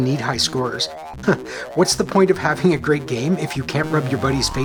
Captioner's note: chuckles